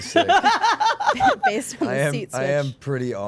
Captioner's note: laughing